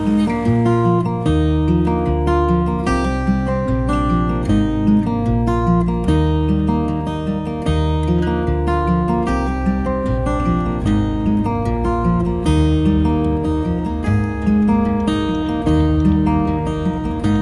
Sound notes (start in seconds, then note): none